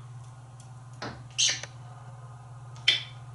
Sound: smooch; more smooches

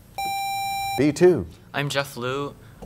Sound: sound of a buzzer

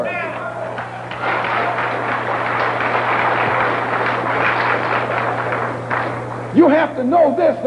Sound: applause

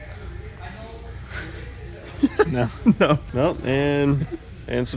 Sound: laughter

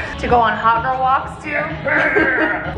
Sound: growls

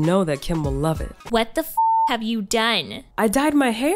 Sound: beep

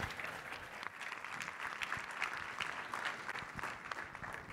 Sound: clapping

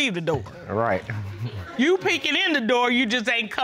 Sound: chuckles

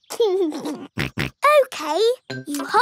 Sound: laughs and snorts

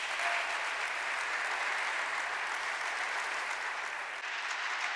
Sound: applause

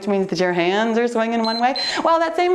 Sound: timer beeps

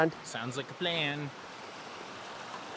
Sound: water rushing

